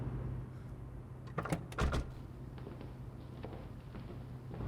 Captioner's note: door opens; ambient street noise